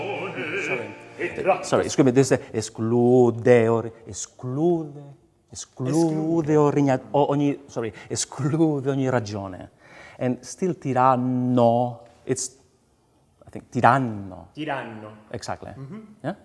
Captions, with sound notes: Sorry, excuse me. [SPEAKS IN FOREIGN LANGUAGE]. Sorry, [SPEAKS IN FOREIGN LANGUAGE]. And still, "tiraNO" it's..."ti-rah-no". - "Ti-rah-no" - Exactly.